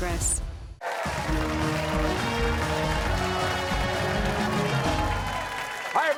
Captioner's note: cheers and applause